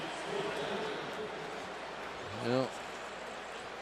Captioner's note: pa announcement